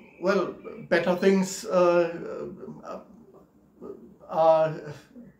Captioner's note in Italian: esitando